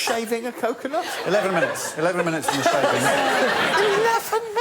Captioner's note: audience laughing